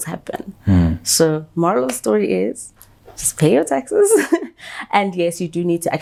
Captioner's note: laughs